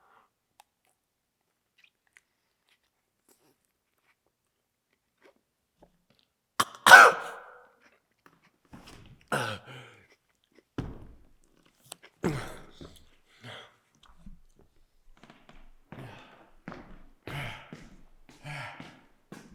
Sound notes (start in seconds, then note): 6.6 Jacob coughs; 9.5 Jacob gasps; 12.2 Jacob groans; 16.3 Jacob panting